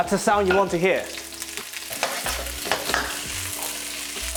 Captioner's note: sizzling sound